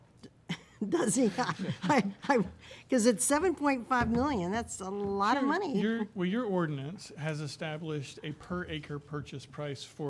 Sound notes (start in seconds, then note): 0.8 laughs